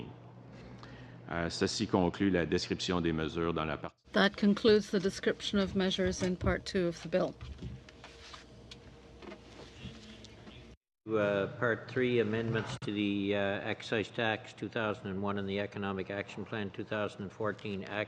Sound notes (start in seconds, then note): 4.6 speaking French